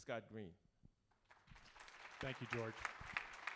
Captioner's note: applause